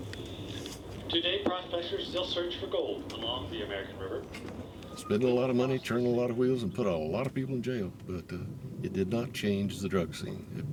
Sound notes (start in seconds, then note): 1.1 voiceover